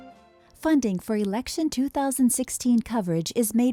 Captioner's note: voiceover